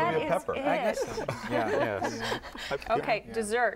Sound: laughter

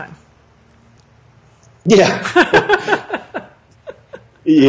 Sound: both laugh

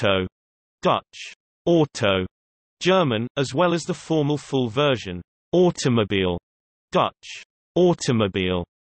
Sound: German

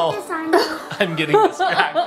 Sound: laughing

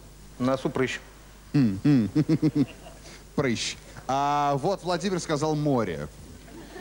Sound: laughter

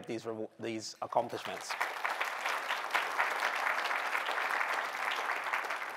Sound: applause

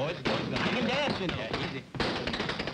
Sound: tapping

